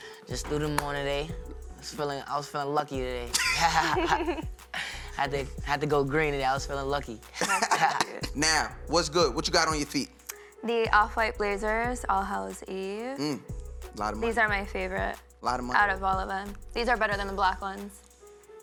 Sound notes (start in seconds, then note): 3.3 laughter